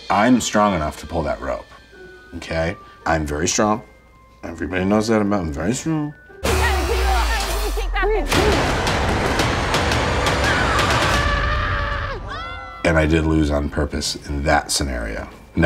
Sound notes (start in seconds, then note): 6.4 dramatic music; 6.6 contestants muttering; 10.1 contestants yelling